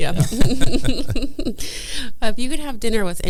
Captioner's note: both people laughing